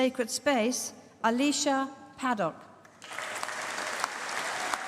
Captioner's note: applause